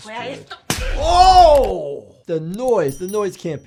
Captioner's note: baton cracks